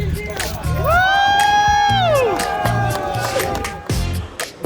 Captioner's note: group cheering; energetic music